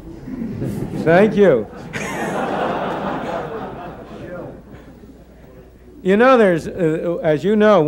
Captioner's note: laughter